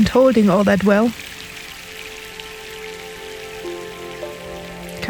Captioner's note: sound of rain